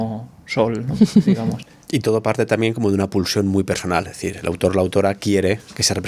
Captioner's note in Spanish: risas